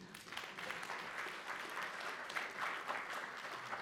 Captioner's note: audience applauding